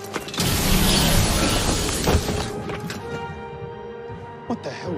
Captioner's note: magic Sword Laser Noises